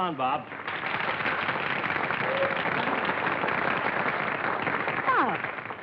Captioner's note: applause